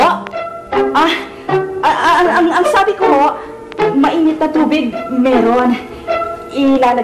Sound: stammers

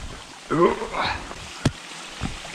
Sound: grunt

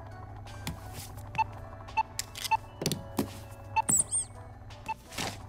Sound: beeps

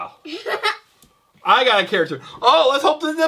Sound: laughing

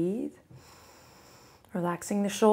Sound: inhales

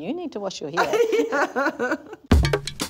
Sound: laughs

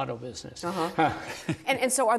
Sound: laughter

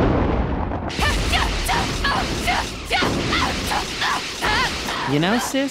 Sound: repeating short shouts and ki blast noises

